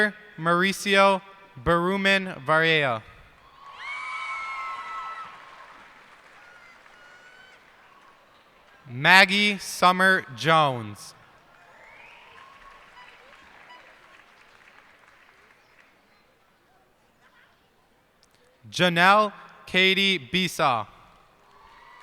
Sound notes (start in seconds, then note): 3.4 cheers and applause; 11.4 cheers and applause